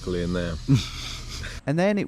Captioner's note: chuckling